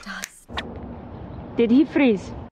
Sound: snaps; birds tweeting; wind blowing

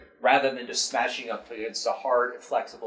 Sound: none

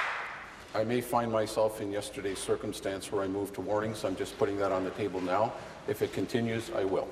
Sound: applause

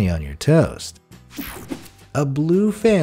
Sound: air whooshing

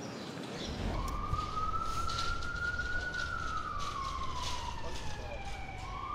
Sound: emergency sirens wailing distantly

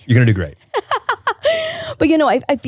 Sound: laughing

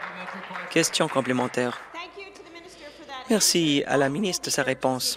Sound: applause

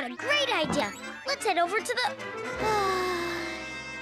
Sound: sighing

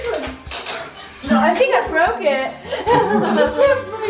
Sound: laughing

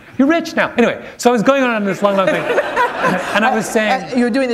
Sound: laughter

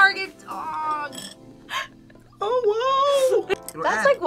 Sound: laughs

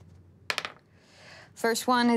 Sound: dice clatters

